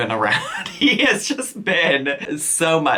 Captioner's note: chuckles